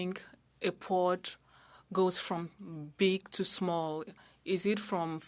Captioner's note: speaking French